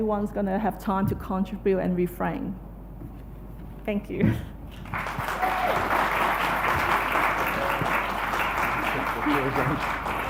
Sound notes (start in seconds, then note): 4.8 applause